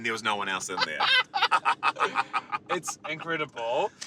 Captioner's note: laughing